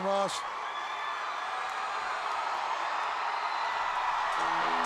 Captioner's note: crowd cheering